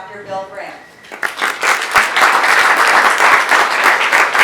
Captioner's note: applause